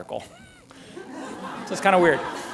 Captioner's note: laughter